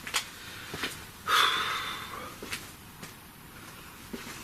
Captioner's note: sighs